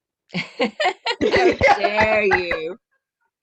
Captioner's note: laughter